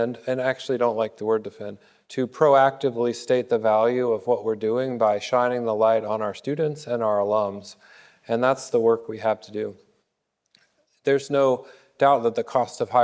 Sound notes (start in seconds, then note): none